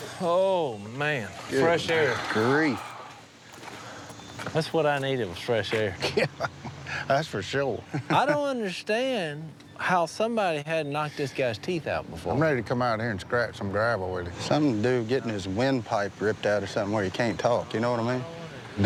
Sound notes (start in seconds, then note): 5.6 laughs